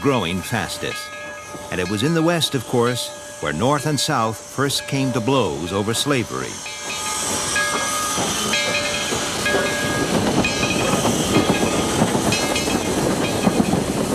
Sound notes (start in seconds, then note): 7.9 bell clangs; 7.9 train clatters